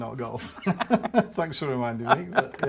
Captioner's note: both laugh